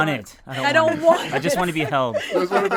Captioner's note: group laughs